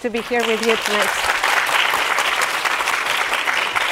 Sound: audience applauds

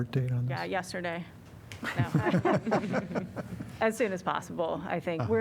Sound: laughter

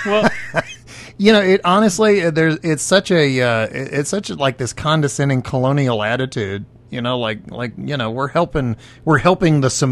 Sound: laughing

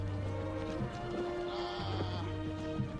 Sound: coughing

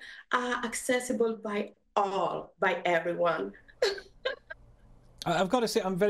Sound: giggles

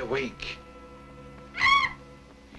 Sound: screech

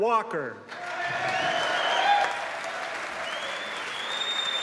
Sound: cheers and applause

